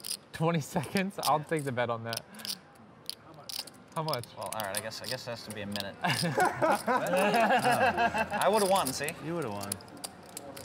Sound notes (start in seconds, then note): 6.0 all laugh